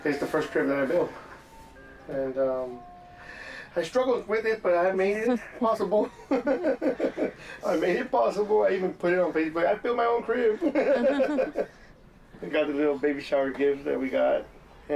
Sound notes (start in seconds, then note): 5.1 laughs; 10.3 laughs